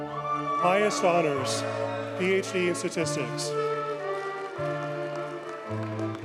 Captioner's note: audience cheers and applauds